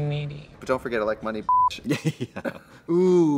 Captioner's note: beep; laughs